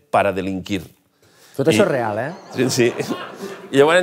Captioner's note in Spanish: risas